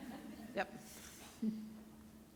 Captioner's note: laughter